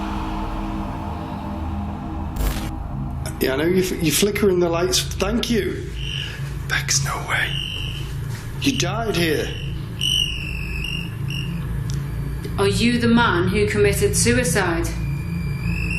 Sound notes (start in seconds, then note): 6.9 whispers; 9.1 device ringing; 14.9 device beeping